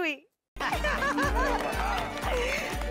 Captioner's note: laughing